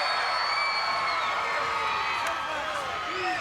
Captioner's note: crowd cheers